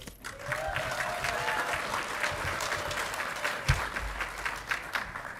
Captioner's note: audience clapping and cheering